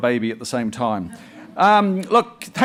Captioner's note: audience chuckles